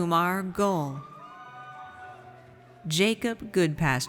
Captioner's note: audience applauds